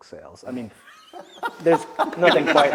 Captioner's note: laugh